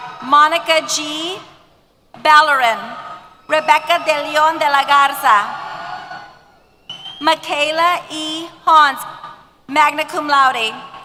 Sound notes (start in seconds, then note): 5.5 cheers